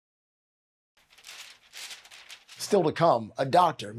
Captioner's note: paper rustling